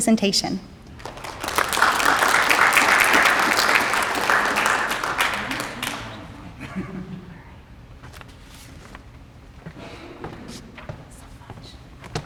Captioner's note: applause